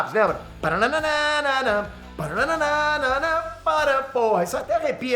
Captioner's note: Peter humming the X-Men theme song